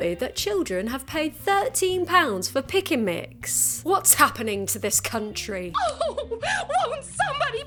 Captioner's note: character crying